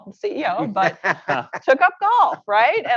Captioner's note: laughter